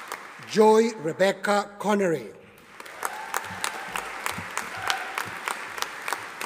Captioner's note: audience applauding